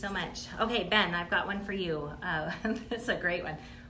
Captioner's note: laughs